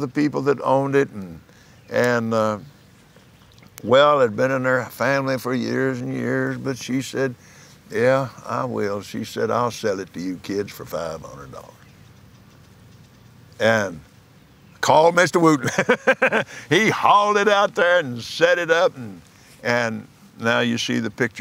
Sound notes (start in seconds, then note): 15.5 laughs